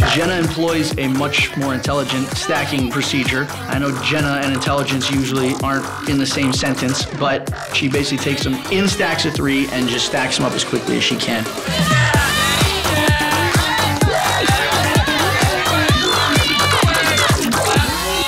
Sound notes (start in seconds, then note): 11.8 upbeat music; 13.1 contestants yelling